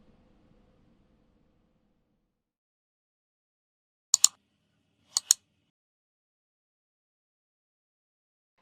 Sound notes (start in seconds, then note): 1.1 clicking